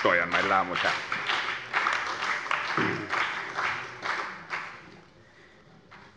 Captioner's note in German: Beifall bei der CDU